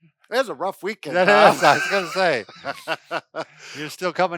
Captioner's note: laughs